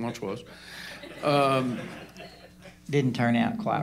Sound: laughter

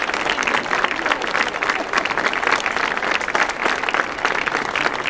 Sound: audience applauding

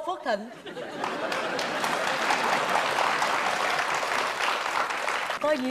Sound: laughing + clapping

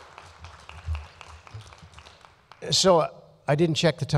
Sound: applause

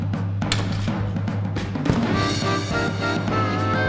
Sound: cannon blasts

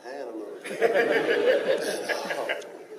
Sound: laughing

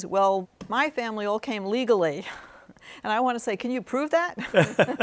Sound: both laughing; chuckles

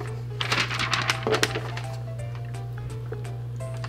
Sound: paper shuffles

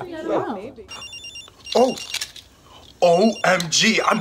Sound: phone ringing

